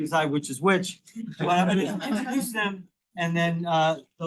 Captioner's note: attendees laughing